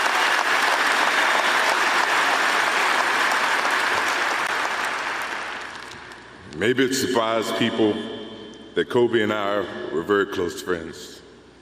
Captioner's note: applause